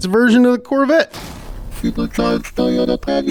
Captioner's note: crashing sound